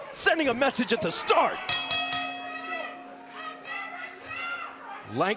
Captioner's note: bell ringing